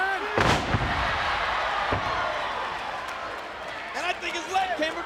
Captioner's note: audience cheering; bodies thud